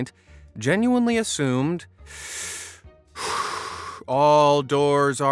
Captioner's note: breathes deeply